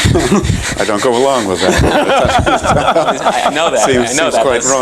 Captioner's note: laughter